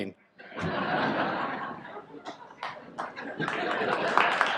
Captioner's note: audience laughs, applauds